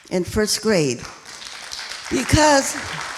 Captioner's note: applauding